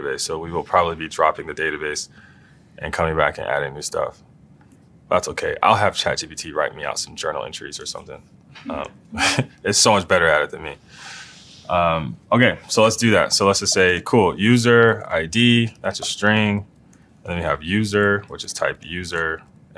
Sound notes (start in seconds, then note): 9.1 laugh